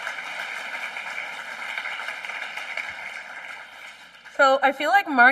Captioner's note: applause